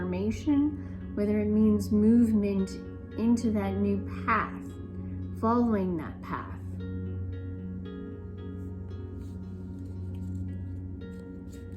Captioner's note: cards shuffling